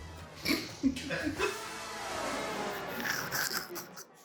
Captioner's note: people chuckling